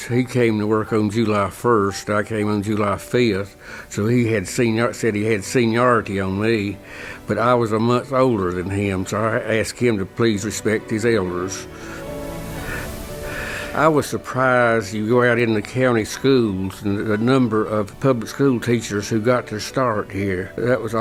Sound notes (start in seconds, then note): 12.3 laugh